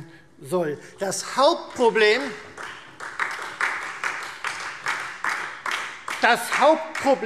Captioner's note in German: Beifall Freie Demokraten und vereinzelt SPD